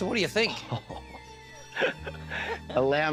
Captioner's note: costa chuckles